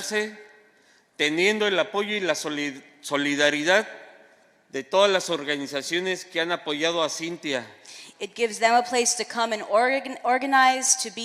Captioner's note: speaking spanish